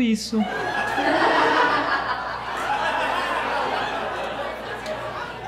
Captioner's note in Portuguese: risadas